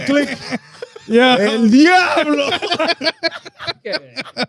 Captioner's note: laughing